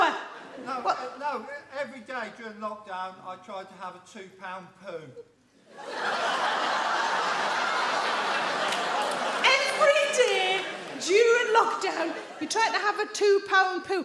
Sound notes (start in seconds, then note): 5.7 audience laughs